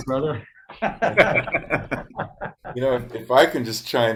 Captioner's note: participants laugh